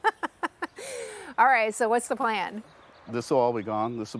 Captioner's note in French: chuckles